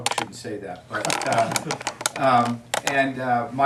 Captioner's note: students laughing